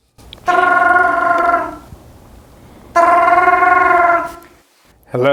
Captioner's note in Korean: 전화벨